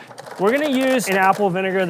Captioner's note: peeler rattling